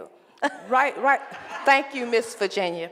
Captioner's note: laughing